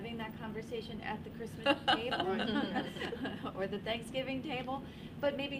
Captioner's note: laughs